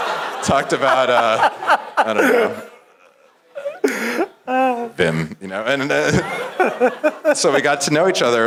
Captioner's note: laugh